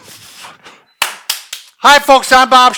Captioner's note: clapping